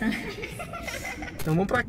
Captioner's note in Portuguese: Risos